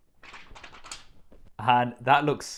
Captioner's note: rattling